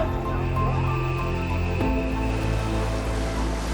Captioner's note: crowd chatter; insects chirping; ocean waves splashing